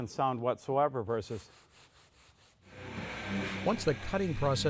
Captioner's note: light scraping